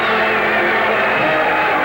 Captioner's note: applause